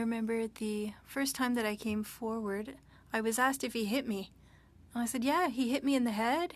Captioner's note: speaking French